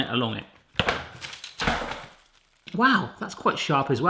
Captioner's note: box clattering